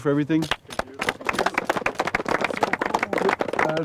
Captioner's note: applause